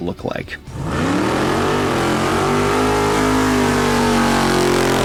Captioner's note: car engine roaring